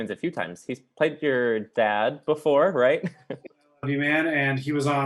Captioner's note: laughs